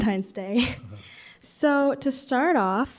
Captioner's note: laughs